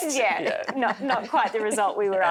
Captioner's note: laughing